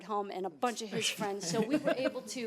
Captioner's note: laughing